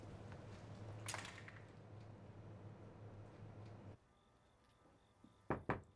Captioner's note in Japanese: ドアが閉まる音; ノック